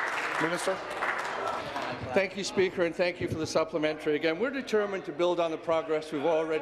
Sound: applause

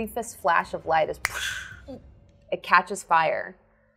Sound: imitates whooshing

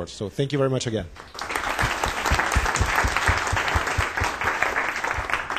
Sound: applause

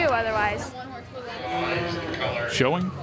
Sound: chatter

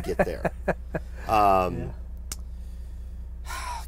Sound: laughs

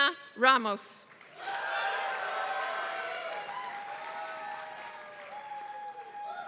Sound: applause

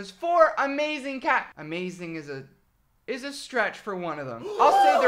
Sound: gasps

